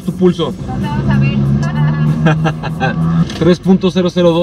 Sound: laughter

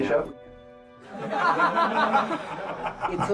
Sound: laughing

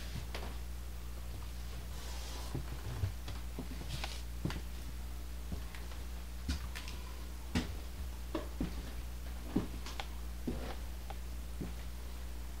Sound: footsteps

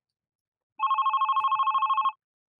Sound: phone Ringing

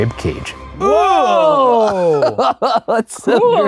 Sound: both grunting; laughing

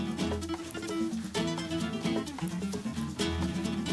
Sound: onions sizzling

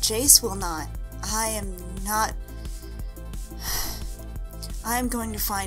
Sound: sigh

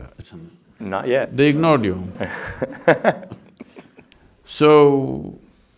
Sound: laughs

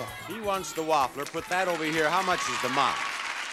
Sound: audience applauds

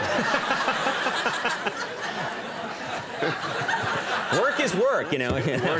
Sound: audience laughing

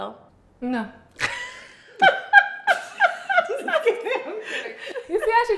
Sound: laugh

